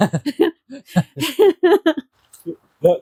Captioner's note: laughter